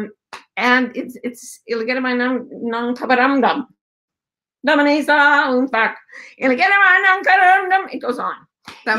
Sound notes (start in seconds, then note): 1.9 in foreign language